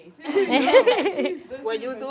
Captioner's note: class giggling